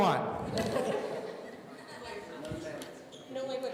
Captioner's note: laughing